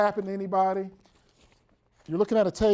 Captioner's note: shuffling papers